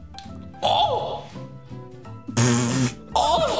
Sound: group oohing in shock; blowing a raspberry; group laughing

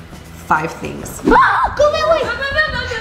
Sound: screams

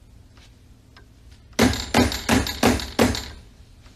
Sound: door knocks

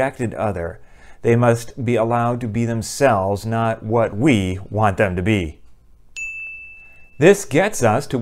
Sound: chime

